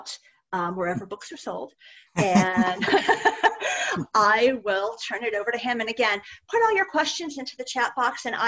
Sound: laughter

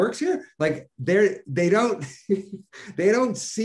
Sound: chuckling

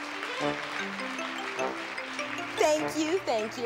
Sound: applause

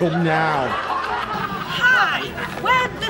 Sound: audience laughter

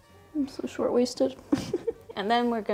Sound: laughs

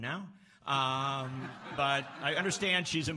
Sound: laughs

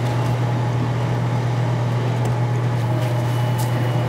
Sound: machinery humming; ingredients sprinkling

